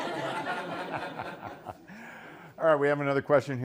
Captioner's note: laughter